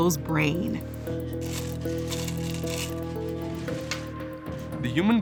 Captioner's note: Go stones clattering